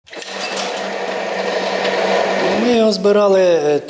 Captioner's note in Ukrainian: шум двигуна